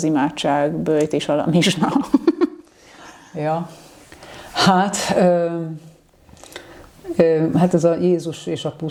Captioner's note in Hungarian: nevetés